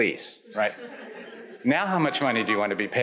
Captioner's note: audience chuckles